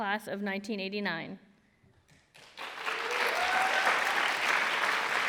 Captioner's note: applause